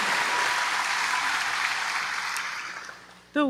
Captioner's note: applause